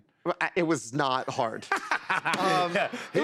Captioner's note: laughs